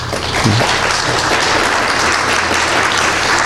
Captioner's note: applause